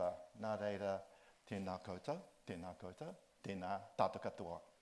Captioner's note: speaks in Māori